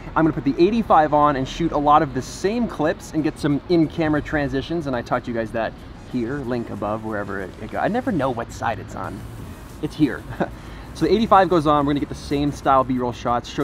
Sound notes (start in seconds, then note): 10.5 laughs